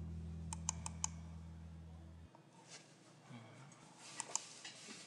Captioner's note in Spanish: Tecleo